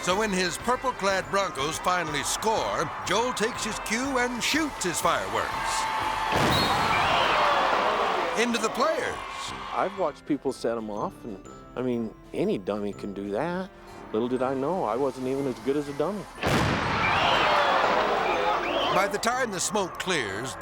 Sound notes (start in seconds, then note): 6.3 fireworks exploding; 16.4 fireworks exploding